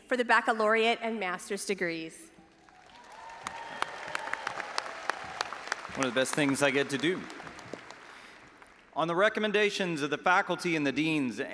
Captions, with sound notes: for the baccalaureate and master's degrees. (all applauding and audience cheering) - One of the best things I get to do. On the recommendations of the faculty and the deans